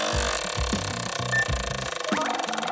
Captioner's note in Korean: 드르르르륵